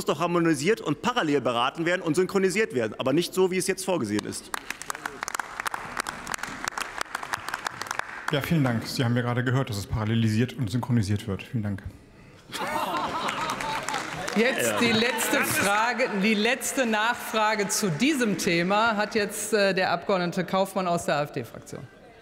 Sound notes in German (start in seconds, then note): 4.4 Beifall